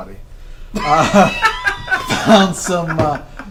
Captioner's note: all laugh